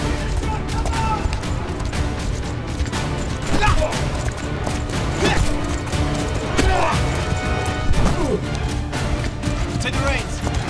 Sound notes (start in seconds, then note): 0.0 horses continue to gallop; 0.3 Kah'Nath continue to shout out; 2.8 hits smack; 6.4 hits smack repeatedly; 7.9 Kah'Nath thuds